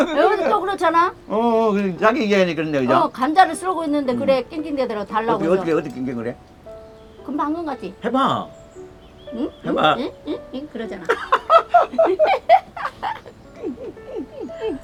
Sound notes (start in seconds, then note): 9.3 Mimicking Laki whining; 10.8 both laughing